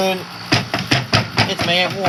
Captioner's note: frantic knocking